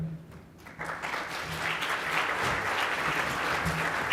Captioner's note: clapping